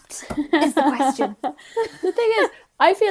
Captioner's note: laughing